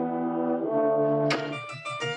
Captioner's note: ax thudding; ominous orchestral music